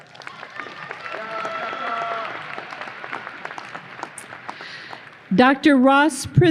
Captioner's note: audience applause